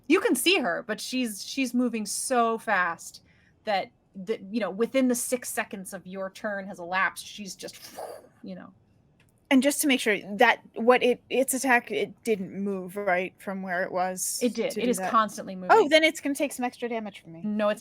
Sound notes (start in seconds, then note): 7.9 imitates whooshing